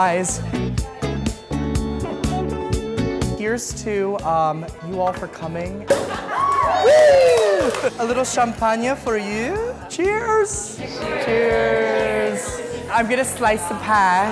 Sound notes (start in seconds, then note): 0.3 funky music; 5.8 cork pops; 6.4 applause